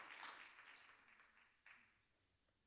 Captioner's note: applause